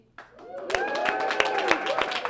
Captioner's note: applause